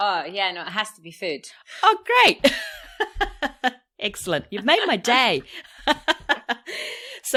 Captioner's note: laughs